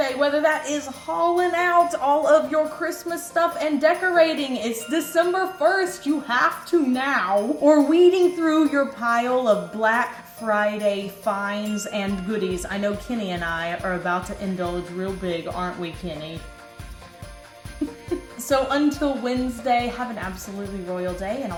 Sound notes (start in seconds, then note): 17.7 giggles